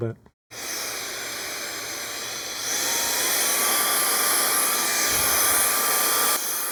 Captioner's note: blower whirring